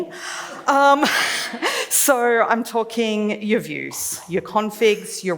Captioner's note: laughs